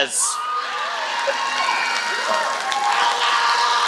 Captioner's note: applause